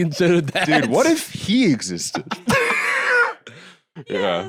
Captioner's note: both laugh